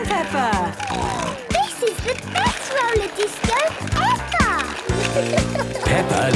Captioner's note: snorting